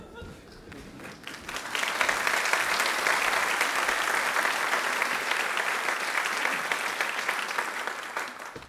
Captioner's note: applause